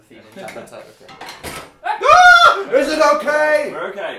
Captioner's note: both scream